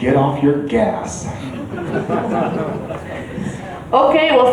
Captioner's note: chuckles